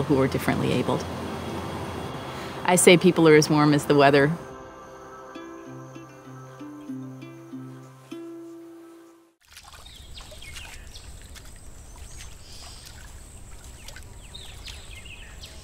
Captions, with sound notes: who are differently-abled. I say people are as warm as the weather. (water splashing) (birds chirping)